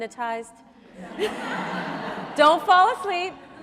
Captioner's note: audience laughs